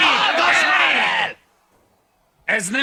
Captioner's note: yelling ceases